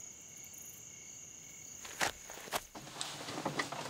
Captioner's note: Rustling